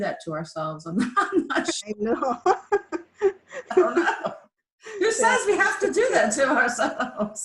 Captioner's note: laughs